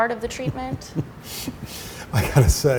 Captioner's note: laughs